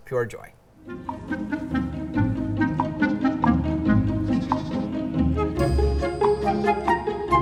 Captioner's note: cheerful bouncy music; lambs baaing